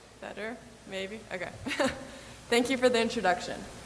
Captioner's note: laughs